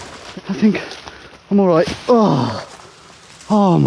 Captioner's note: groans